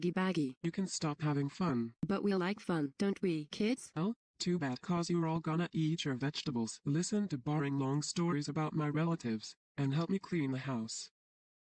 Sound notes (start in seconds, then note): 0.4 imitating Ava; 2.1 normal voice; 4.4 imitating Ava